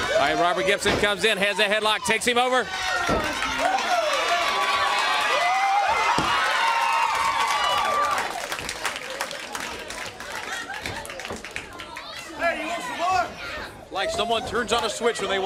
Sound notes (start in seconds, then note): 1.9 crowd cheering; 3.9 crowd chatter